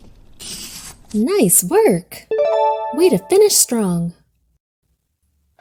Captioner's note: check mark dings